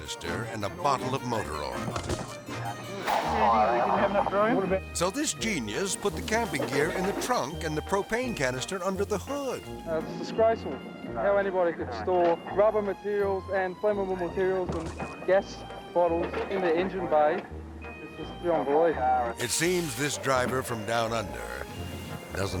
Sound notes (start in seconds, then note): 1.7 jug thudding; 2.2 melodic music